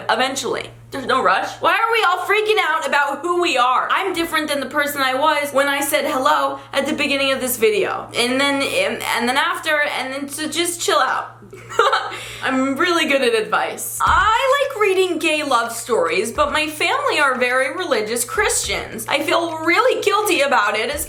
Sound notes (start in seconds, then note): 11.4 giggles